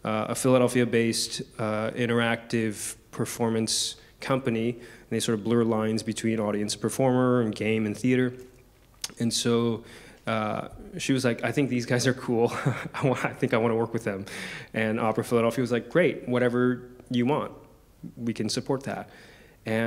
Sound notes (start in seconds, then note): 12.4 chuckles